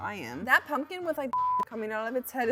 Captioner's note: beep